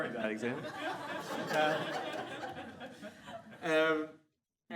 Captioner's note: audience laughs